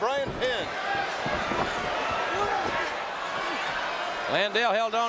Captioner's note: audience cheering